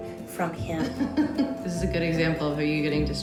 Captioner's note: giggling